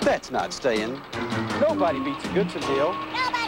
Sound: over crane warning beeps

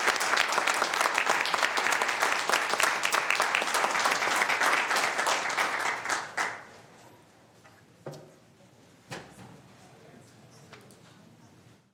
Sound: applause

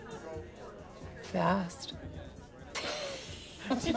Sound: laughs

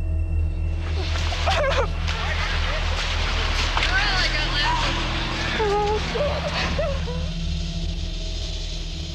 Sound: audible sobbing

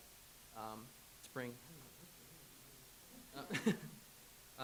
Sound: laughs

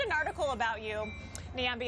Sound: laughter

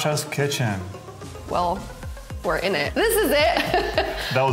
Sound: laughing

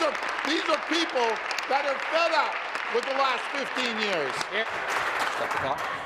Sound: applause

